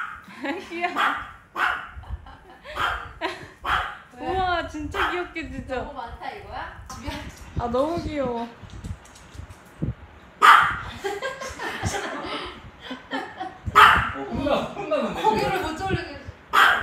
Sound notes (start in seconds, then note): 10.4 Barking at Sis